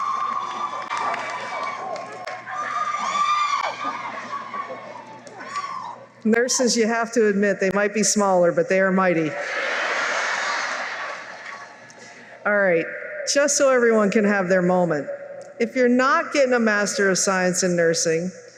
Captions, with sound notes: Nurses, you have to admit, they might be smaller, but they're mighty. [laughter] All right. Just so everyone can have their moment; if you're not getting a Master of Science in Nursing,